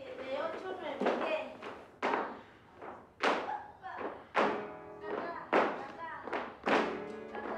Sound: spanish, guitar; clapping, feet tapping

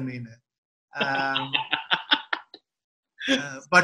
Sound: laughs

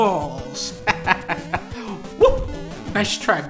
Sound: laughing

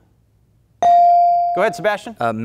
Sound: buzzer pings

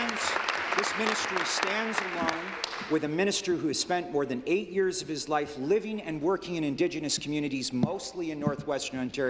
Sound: applause

